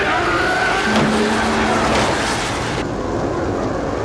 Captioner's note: thud